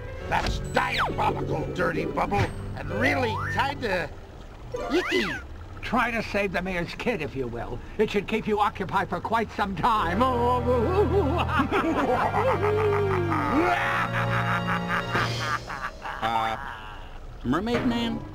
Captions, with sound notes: That's diabolical, Dirty Bubble! And really kinda... icky. Try to save the mayor's kid if you will. It should keep you occupied for quite some time. [evil laughter] [Mermaid Man inadvertently does a wicked laugh as well] Uh... Mermaid Man?